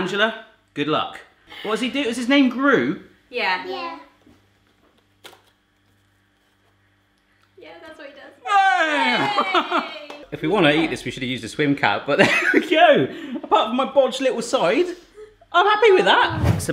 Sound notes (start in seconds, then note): 5.0 tortilla cracking; 8.4 all cheering